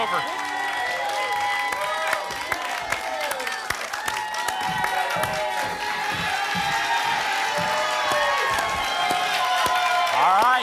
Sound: applause and cheering

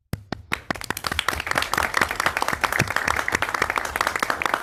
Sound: board members clapping

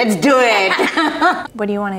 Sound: both laugh

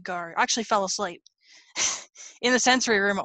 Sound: laughs

